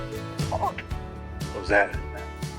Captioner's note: creature squawks